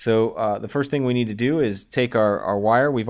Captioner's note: voiceover